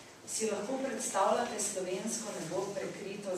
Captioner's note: non-english speech